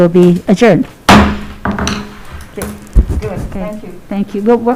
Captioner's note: gavel bangs